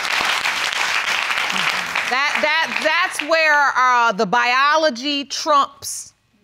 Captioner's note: stammers